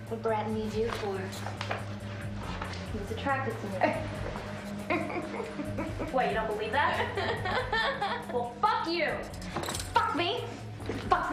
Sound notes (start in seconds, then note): 4.8 Rachel laughing; 7.0 laughter continues